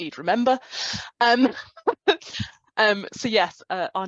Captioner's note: laughs